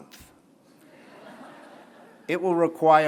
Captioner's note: laughter